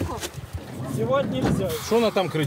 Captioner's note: conversation in the background